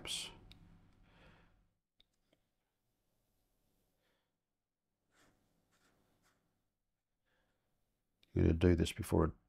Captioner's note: silence